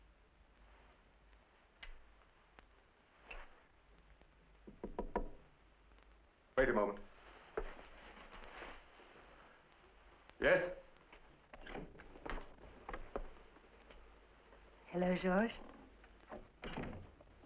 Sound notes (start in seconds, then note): 4.6 knocking on door